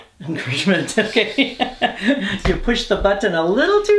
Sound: laughing

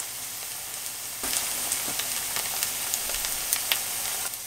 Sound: sizzle

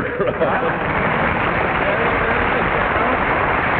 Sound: applause

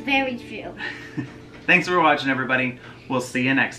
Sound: laughs

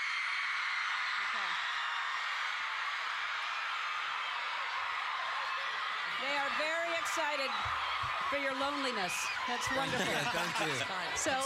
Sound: cheers and applause

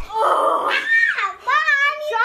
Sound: mom groans

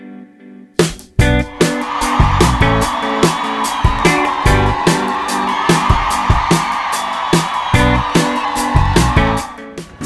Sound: applause

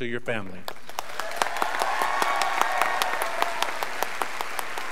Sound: graduates applauding

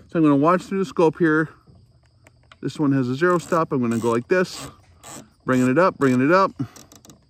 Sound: turret locks

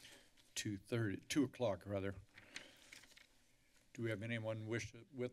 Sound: papers flipping; papers flipping

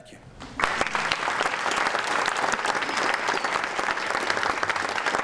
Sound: audience applauding

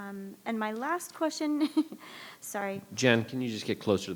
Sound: laughs

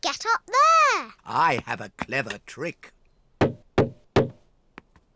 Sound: knocks

